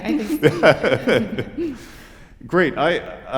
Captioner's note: laughter